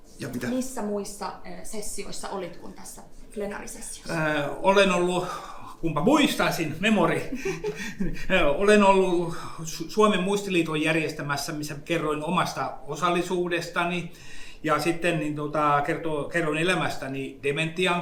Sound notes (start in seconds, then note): 0.2 speaks in Finnish language; 7.2 giggles; 8.3 speaks in Finnish language